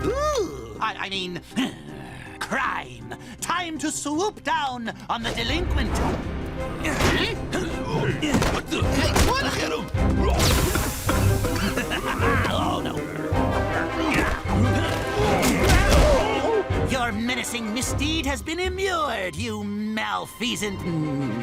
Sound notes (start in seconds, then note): 11.5 both coughing; 11.8 Darkwing Duck laughs